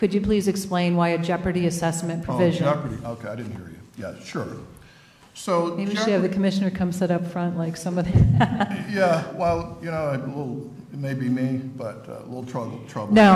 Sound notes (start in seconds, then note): 8.2 laughs